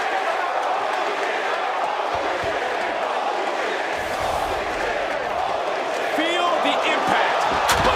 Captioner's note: crowd chants